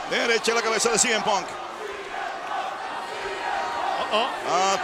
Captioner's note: applause